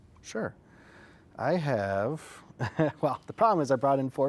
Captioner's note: chuckles